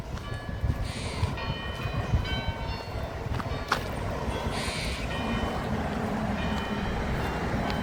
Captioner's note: squirrels chittering